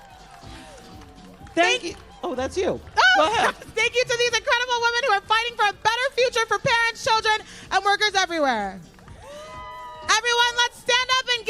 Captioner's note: applause